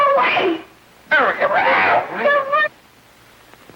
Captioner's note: yelping